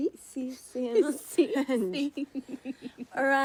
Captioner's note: both laugh